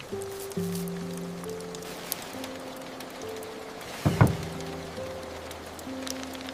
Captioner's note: knuckles pressing into soft dough